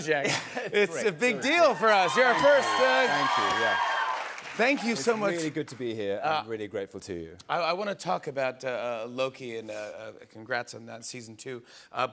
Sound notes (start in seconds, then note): 1.5 cheers and applause